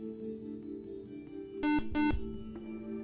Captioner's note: buzzer